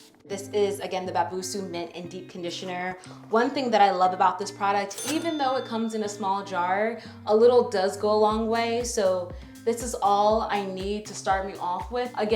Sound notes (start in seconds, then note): 4.8 bell dinging